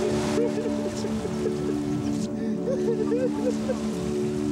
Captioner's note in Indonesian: suara tangisan